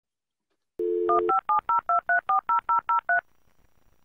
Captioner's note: dialling